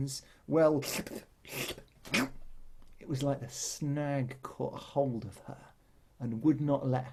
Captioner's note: squelch noises